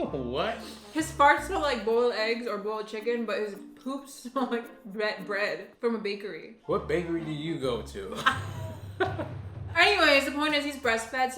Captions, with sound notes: - What? - His farts smell like boiled eggs or boiled chicken, but his poop smells like bread from a bakery. - What bakery do you go to? (laughing) - Anyways, the point is he's breast-fed,